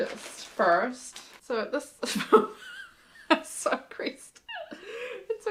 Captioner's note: laughs